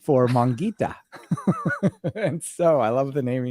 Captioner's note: laughing